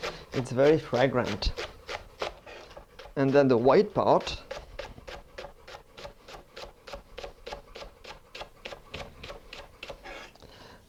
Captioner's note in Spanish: sonido cortando